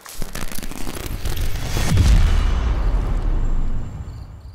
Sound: electricity sparking

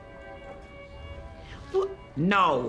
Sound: whimpering

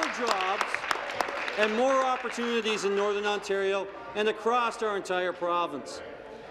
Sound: applause

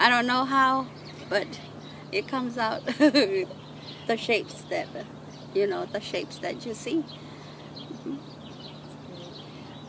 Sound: laughs

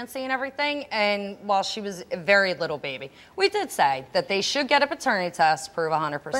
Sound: none

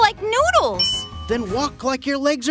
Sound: ding

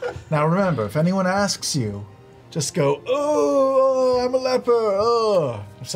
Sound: moans in pain

